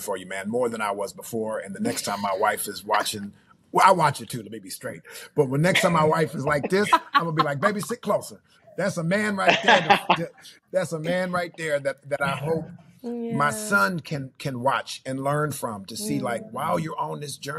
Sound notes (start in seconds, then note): 8.8 laughing